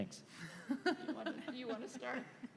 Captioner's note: laughter